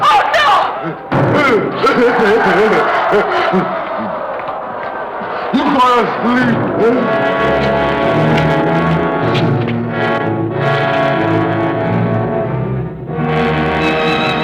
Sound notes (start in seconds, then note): 1.5 crowd shouting; 6.2 dramatic music